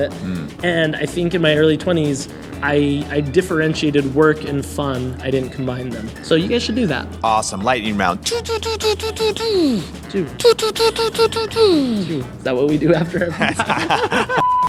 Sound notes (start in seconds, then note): 8.2 sound effects; 13.0 laughter